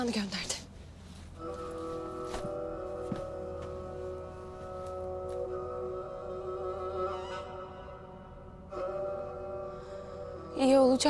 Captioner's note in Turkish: Takırtı ve Müzik Sesi